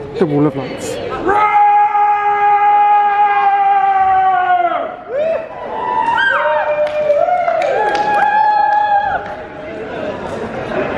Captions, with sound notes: the wall of lights. (screams)